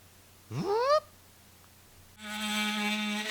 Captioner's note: mimicking buzzing; tool grinding